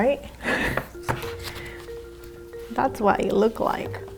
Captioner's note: giggles